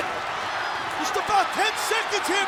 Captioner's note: audience cheering and clapping